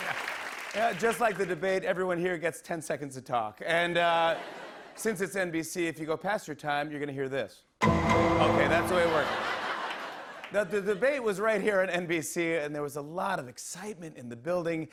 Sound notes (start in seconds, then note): 4.1 laughter